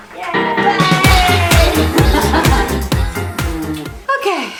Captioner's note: laughs